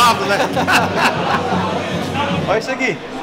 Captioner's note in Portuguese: risadas